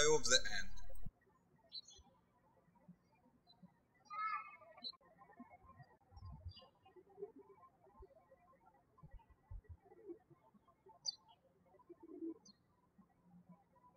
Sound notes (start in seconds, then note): 2.6 birds chirping